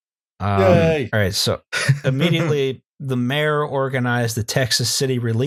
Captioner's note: laughter